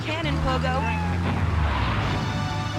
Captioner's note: car engine roaring